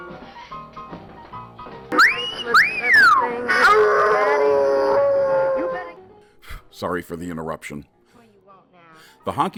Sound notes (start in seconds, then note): 1.9 speaker catcalls; 1.9 dog howls